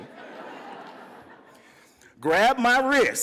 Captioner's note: audience laughs